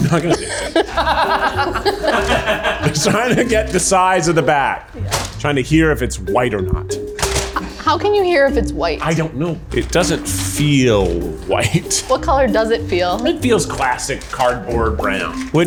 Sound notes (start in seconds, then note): 0.0 crew laughing